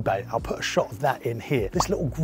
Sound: popping sound

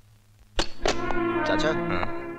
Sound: receiver hang up

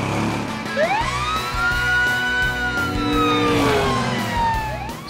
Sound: siren blaring

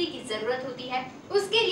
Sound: hindi

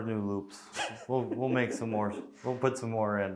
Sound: laughing

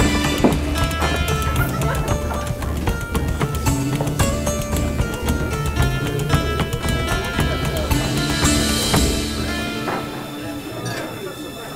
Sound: laughter and sound of bar patrons

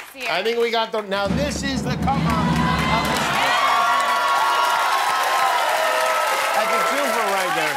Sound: cheers and applause

